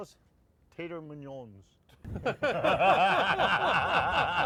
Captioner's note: all laughing